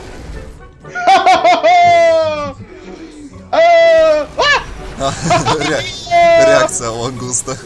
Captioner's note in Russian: Крики боли ушей